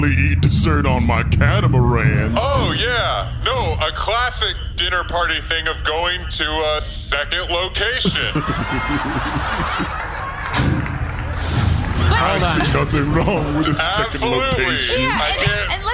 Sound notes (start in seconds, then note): 8.0 audience laughs